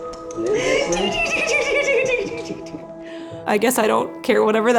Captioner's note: laughing